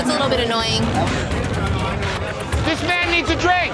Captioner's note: chatter